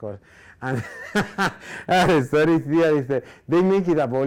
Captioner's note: laughing